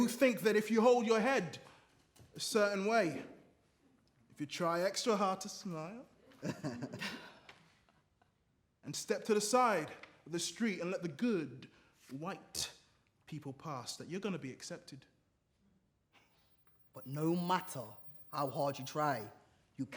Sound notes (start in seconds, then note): 6.3 others laugh